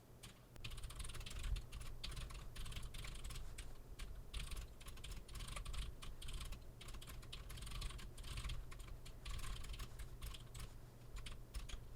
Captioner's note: keyboard typing sounds